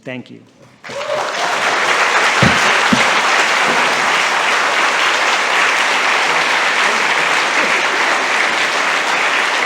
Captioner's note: applause and cheering